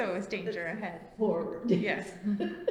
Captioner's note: laughs